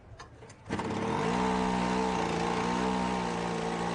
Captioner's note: motor starts